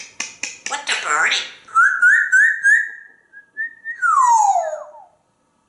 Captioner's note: whistling